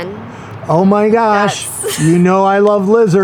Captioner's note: laughs